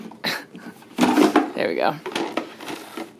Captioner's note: crashing